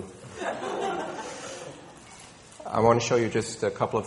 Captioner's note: people laughing